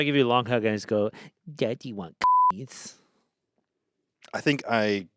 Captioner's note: beep